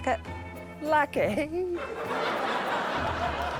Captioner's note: laughter